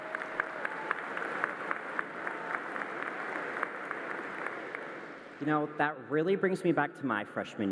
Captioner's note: applause